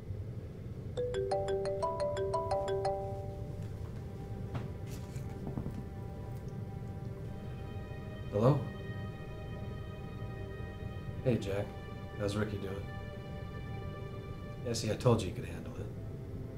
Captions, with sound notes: (phone ringing) (dramatic music) - Hello. Hey Jack, how's Rickie doing? Yeah see I told you he could handle it.